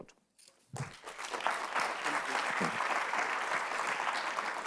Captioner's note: audience applauds